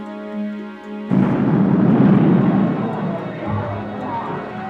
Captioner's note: explosions